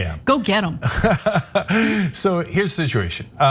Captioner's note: laugh